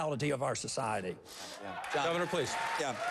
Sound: applause

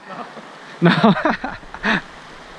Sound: laughs

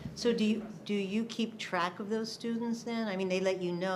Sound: none

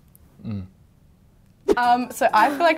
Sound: snorts; grunts

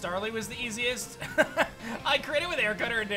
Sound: laughs

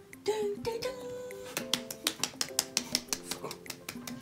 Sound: applause

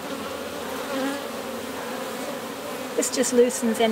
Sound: bees buzzing

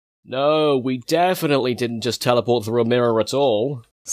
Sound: sarcasm

